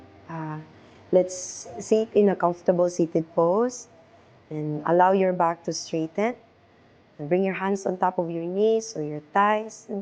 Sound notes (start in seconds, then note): none